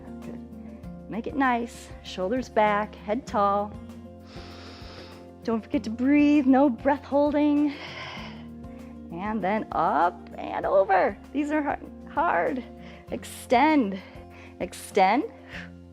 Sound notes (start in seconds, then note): 4.2 inhales; 8.5 exhales